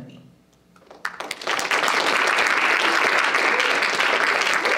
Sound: audience applauding

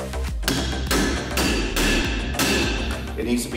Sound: metal striking metal

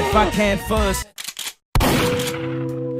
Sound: boom!

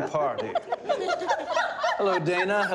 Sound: laughter

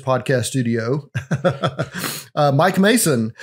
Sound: laughs

